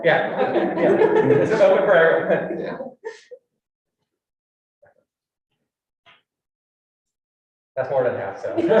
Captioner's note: all laughing